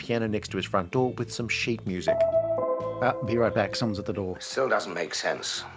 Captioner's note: ding-dong